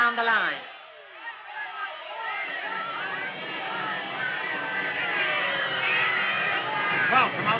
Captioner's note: commotion